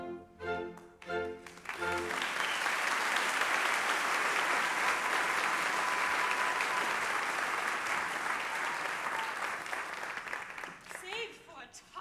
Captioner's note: applause